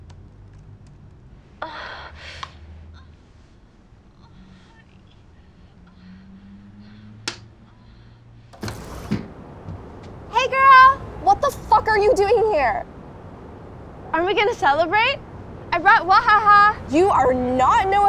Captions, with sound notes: (moaning) (tapping) Hey girl! What the fuck are you doing here? Aren't we going to celebrate? I brought Wahaha. You are not Noah Centineo.